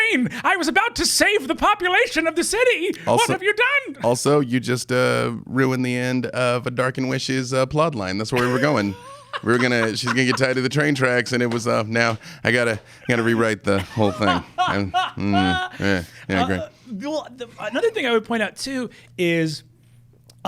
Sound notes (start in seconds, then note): 8.3 laughing; 13.0 laughing